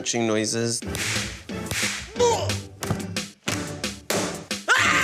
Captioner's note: makes sound effects